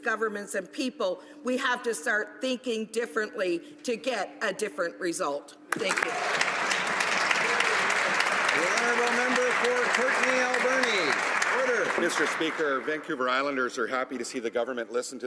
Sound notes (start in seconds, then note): 10.3 some Applause